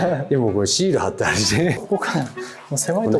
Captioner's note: laughs